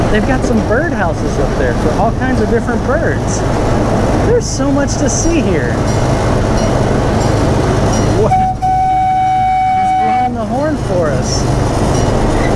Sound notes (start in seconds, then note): 8.2 train horn toots; 11.8 train bell clanging